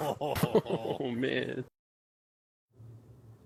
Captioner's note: laughs